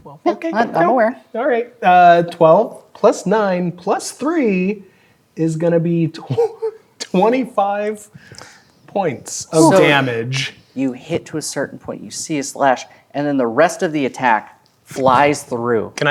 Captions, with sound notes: Okay. - I-- I'm aware. - All right, uh... 12 plus 9, plus 3, is gonna be (laughing) 25 points of damage. - So, you hit to a certain point. You see a slash, and then, the rest of the attack flies through.